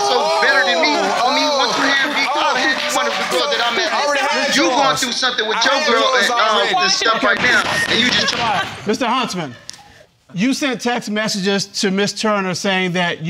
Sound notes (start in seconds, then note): 0.3 audience applauding; 7.3 banging gavel